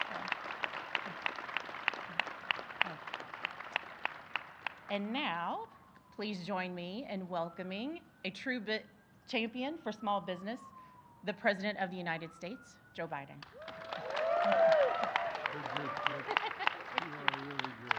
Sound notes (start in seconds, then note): 4.5 applause